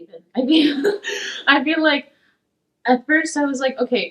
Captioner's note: laughs